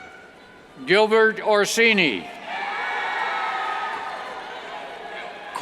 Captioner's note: cheers